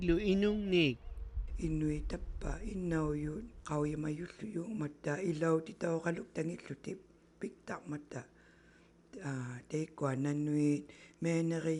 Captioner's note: speaking inuktitut